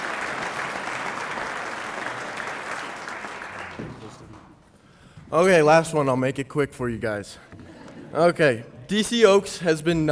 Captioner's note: applause